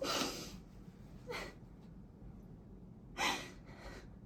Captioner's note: Tess sobs